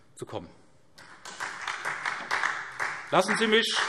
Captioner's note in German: Beifall SPD und vereinzelt DIE LINKE